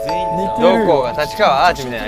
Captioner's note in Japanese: アナウンス音